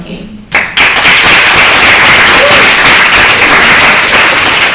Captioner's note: applause